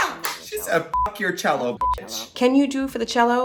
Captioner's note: beep